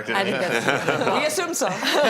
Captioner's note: laughing